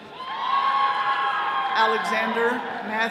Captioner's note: all cheering